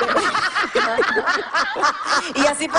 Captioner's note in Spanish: Ríe